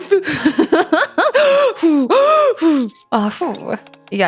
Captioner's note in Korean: 웃음; 헉 소리